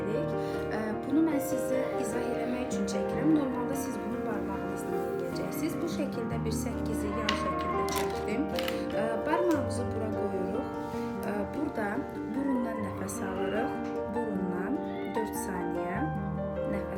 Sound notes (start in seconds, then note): 10.8 breath through nose 4 seconds